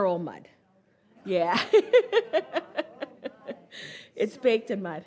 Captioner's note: laughs